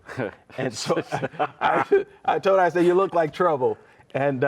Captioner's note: laughs